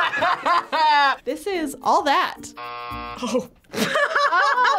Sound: laughs; buzzer rings; laughs

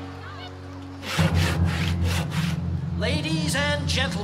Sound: sawing Noise

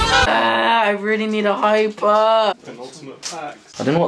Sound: chaotic music; groans

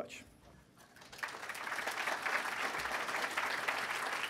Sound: applause

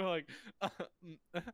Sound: cough

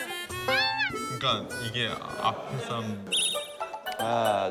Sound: eventually, he burst into tears while laughing

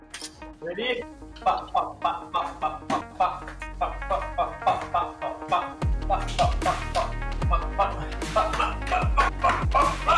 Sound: counting

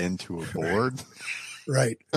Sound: laughter

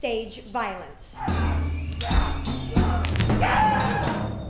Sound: screaming; bone cracks; screams

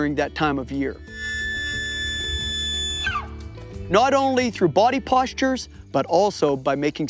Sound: elk call

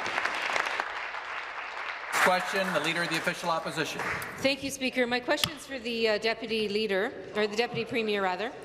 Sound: applause

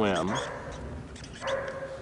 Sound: dog barking

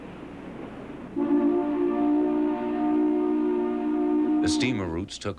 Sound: horn blowing

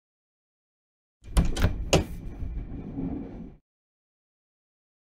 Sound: sound of door

